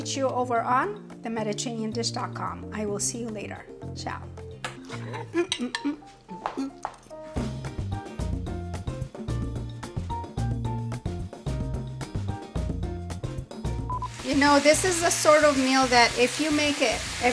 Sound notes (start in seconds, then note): 4.9 host humming; 4.9 lively music